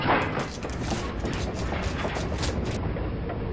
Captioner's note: paper bag rustling